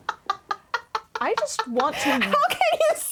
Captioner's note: laughing